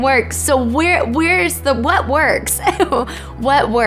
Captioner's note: laughs